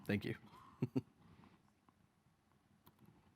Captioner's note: chuckling